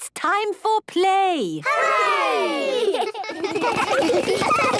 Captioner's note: laughter